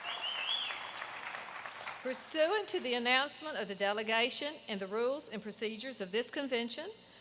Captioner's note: applause